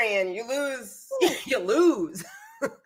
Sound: chuckles

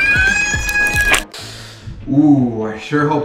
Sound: squish sound

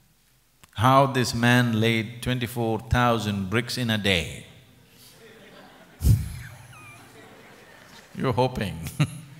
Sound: laughter; laughs

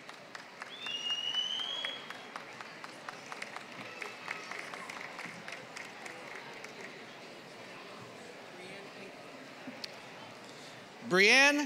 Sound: applause

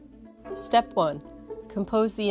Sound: gong chimes

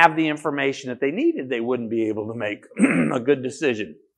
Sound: coughs

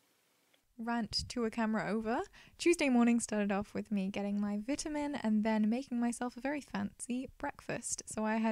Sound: voiceover

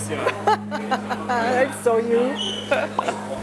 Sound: laughter

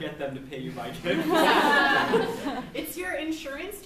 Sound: laughs

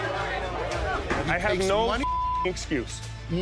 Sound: beep

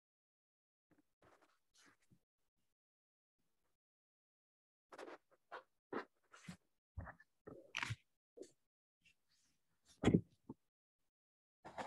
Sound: silence

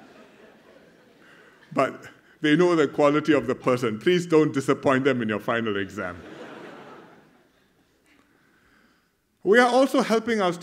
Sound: laughter; laughter

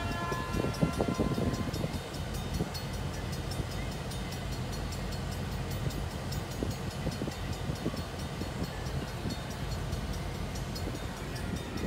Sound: Safetran Mechanical Bell Ringing; Safetran Mechanical Bell with WC Hayes E-Bell Ringing

